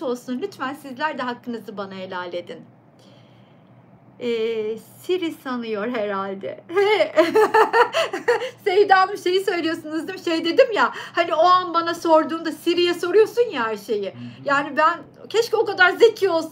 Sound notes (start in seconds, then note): 7.1 laughter